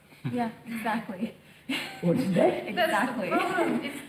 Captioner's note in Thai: หัวเราะ